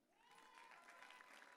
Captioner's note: audience cheering